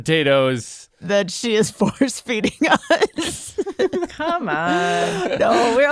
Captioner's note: laughs